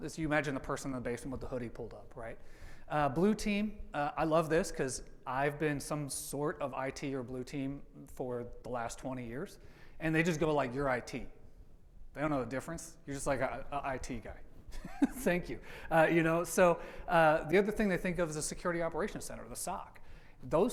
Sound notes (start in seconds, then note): 14.8 laughs